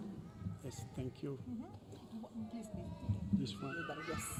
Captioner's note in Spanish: conversando en inglés